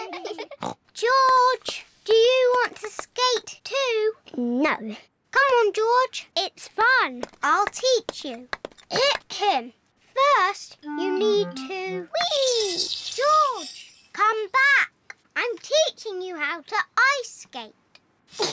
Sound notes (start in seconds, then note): 0.8 snorts; 8.9 clears throat; 18.3 giggles